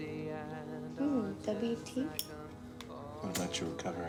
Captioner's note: lighter clicking